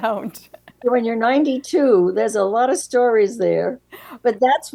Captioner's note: laughs